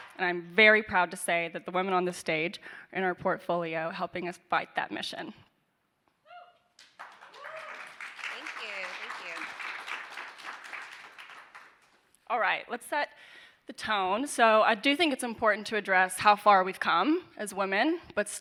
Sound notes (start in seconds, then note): 7.0 audience cheering; 9.6 audience applauding